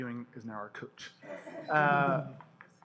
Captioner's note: laughter